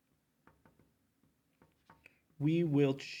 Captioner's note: marker clacks